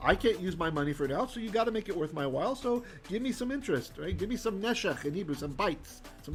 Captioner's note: Hebrew